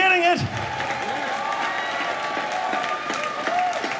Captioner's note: applause